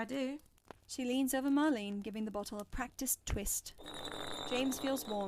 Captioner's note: bottle spinning